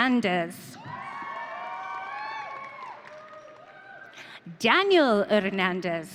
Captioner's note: audience cheering